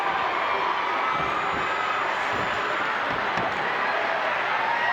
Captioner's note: crowd cheering